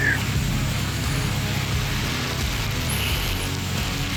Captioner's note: leaves rustling